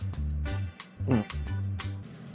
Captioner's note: gulp